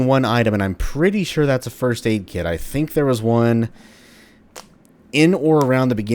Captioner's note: knuckles cracking